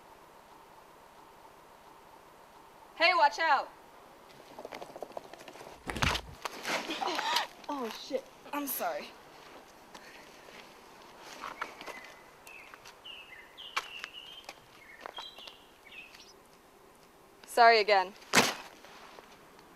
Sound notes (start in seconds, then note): 4.3 sounds of a collision; 4.3 skateboard rolling; 6.7 gasps; 15.9 birds tweeting